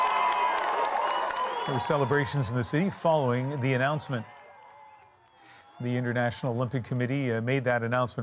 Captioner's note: cheers and Applause